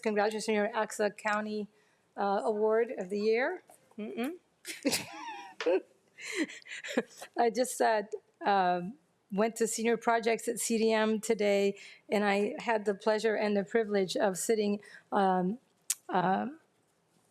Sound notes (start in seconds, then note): 5.1 laughs